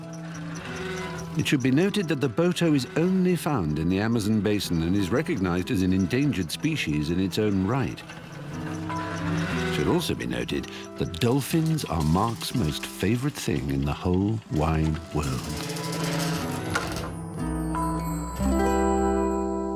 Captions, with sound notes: It should be noted that the boto is only found in the Amazon basin and is recognized as an endangered species in its own right. It should also be noted that dolphins are Mark's most favorite thing in the whole wide world. (hatch creaking)